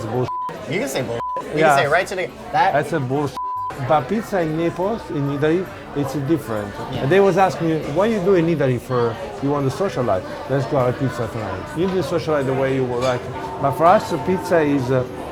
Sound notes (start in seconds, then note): 0.2 beep; 3.4 beep